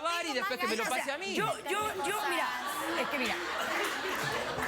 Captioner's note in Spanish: risas